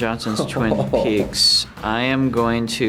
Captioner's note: Josh laughs